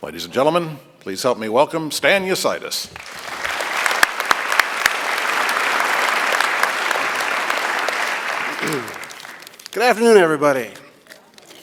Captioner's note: applause